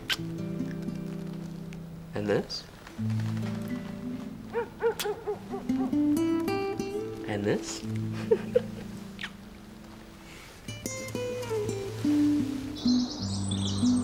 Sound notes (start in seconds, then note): 0.0 kissing; 4.8 kissing; 6.0 soft music; 8.0 laughing; 11.5 soft music